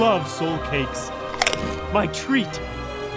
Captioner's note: crunch